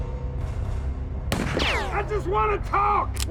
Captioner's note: gun shot